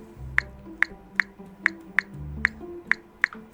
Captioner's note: phone clicks